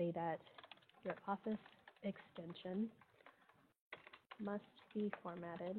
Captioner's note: computer keys clicking